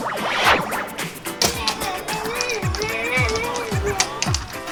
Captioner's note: magnet rattles